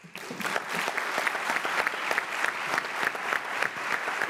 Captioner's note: audience applauding